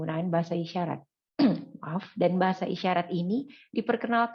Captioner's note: cough